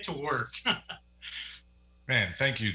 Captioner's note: laughs